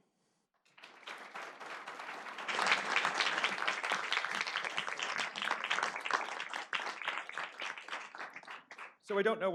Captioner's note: applause